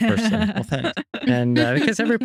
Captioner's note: laughing